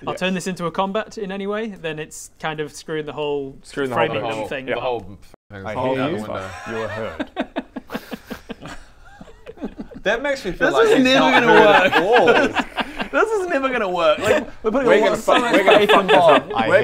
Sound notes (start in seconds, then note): 8.4 laughs at inevitable omnishambles and TPK